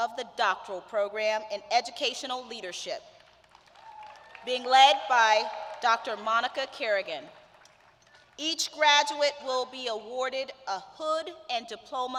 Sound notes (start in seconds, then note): 3.7 cheers